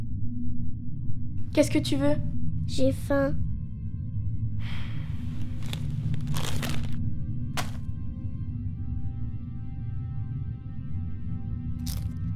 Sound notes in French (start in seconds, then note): 4.6 soupir